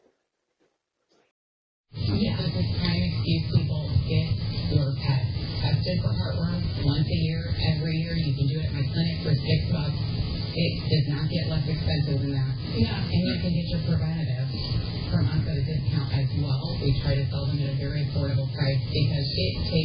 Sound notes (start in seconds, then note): 1.9 "21Alive News at 4" plays in background